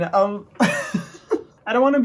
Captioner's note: laughs